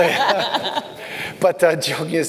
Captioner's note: laughing